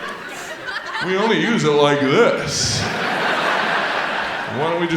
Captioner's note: audience laughs